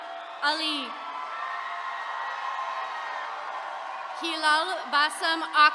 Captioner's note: attendees cheering